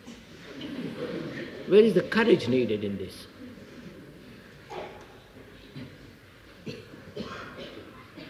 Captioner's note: laughter